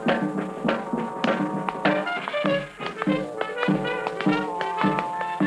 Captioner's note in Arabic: صوت نقر الأحذية